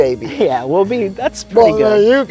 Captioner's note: pat; chuckling